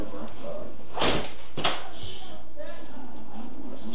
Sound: door Closing

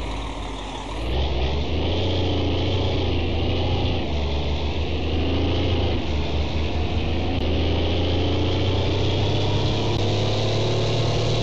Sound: v12 cummins roaring

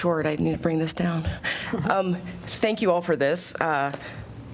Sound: laughter

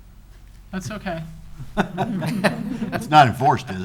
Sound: all laughing

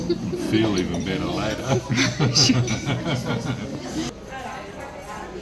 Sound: laughs

